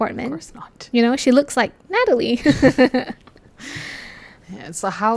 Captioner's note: laugh